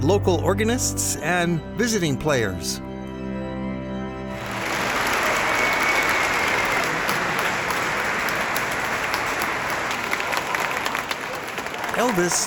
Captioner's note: applause